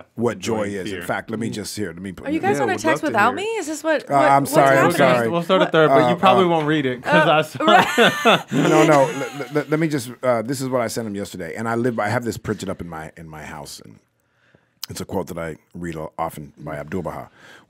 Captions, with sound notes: - What joy is. In fact, let me just, here, let me put you- - Are you guys on a text without me? - Yeah, I would love to hear it. - Is this what? What's happening? - I'm sorry. I'm sorry. - We'll start a third, but you probably won't read it 'cause I... (laughs) - No, no, let me just... This is what I sent him yesterday, and I live by, I have this printed up in my house. And it's a quote that I read often by 'Abdu'l-Baha